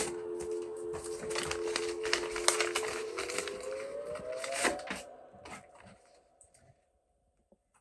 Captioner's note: envelope opening